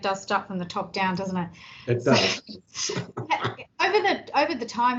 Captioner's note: chuckling